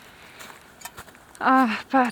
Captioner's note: agh